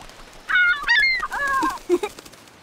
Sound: laughing

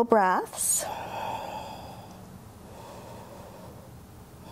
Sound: deep breathing

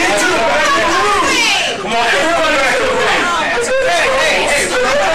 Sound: shouting and arguing

